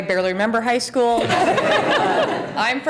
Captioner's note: laughter